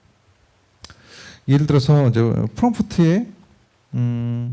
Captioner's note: speaking korean